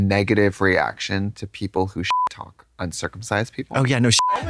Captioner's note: beep